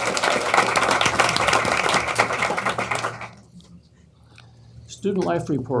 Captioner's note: applause